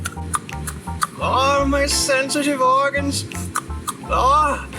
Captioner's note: claws smacking